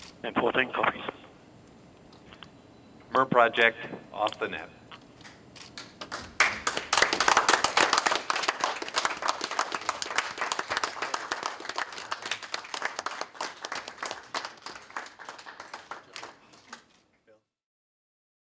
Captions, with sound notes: And 14 copies. MER project off the net. [applause]